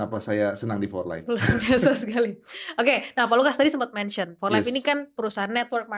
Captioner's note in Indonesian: tertawa